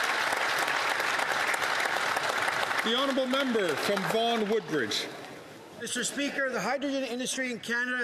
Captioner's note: some Applause